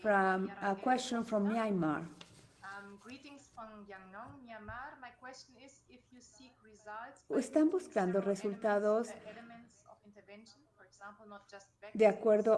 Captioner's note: in Spanish